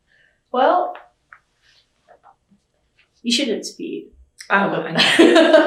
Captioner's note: laughs